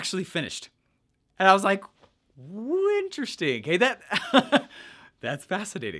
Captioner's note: chuckles